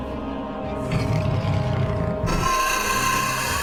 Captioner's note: scorpion beast growls; scorpion beast shrieks